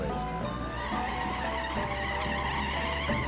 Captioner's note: tires screeching